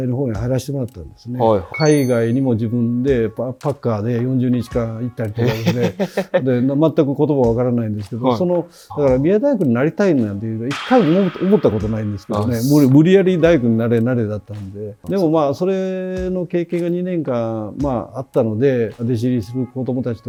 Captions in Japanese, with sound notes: 40日間行ったりとかですね。[笑い] で、全く言葉わからないんですけど、そのだから宮大学になりたいなんていうのが 1 回思ったことないんですけどね。無理、無理やり大工になれ慣れだったんで。 でも、ま、それの経験が 2 年間、ま、あったのでデシリする子供たちとか大卒で来る子供たちの気持ちがよく分かるようになりましたね。はい。